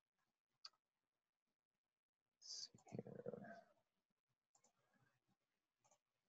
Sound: silence

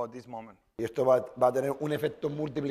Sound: speaking spanish

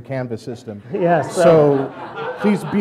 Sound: audience laughter

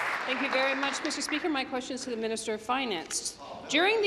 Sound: applause

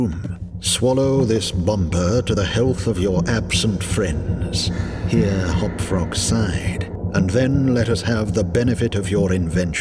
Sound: here Hop-Frog sighed

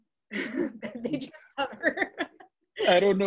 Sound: laughs

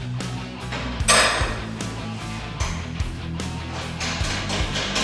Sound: metal clinking

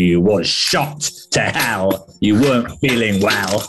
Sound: gruffly

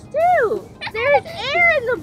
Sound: laughing

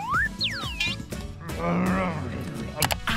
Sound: peeping; grumbling

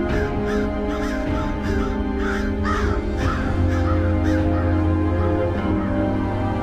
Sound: birds squawking

